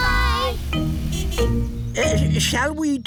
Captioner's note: horn honks